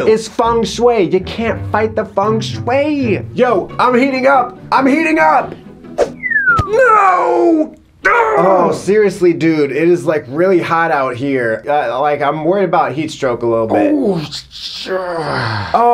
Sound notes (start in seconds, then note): 6.1 whistles